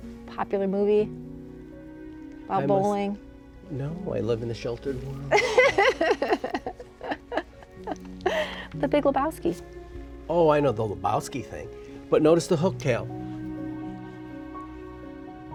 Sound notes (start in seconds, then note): 5.3 laughs